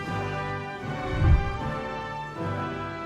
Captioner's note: whooshing sound